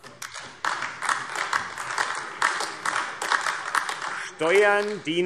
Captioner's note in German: Beifall AfD